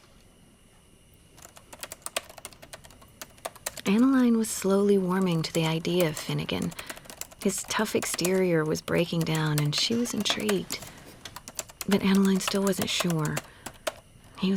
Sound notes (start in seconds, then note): 1.4 typing